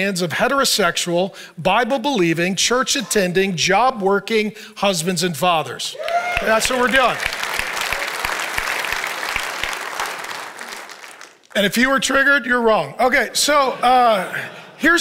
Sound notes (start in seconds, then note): 5.9 congregation cheers; 13.2 congregation laughs